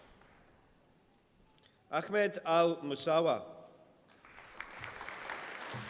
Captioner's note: applause